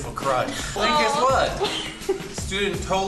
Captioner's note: group laugh